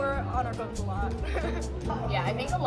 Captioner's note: laughs